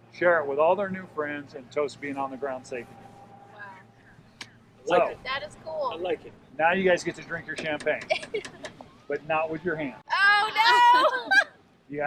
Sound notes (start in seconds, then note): 8.0 laughs; 10.4 laughs